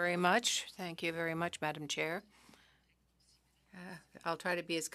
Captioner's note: speaking French